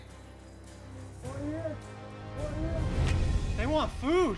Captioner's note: speaks paiute language